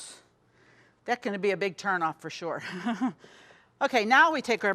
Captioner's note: chuckles